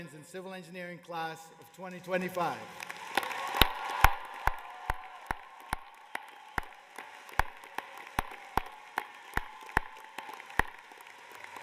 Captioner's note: cheers and applause